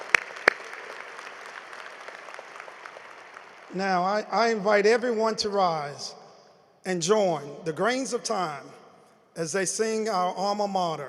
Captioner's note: applause